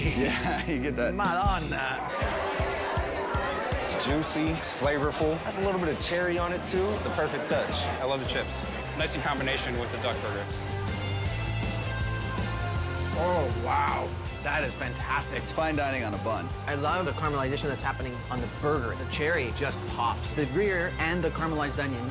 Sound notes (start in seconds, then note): 2.0 diners chatting; 10.6 John crunches